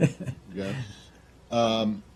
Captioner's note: laughter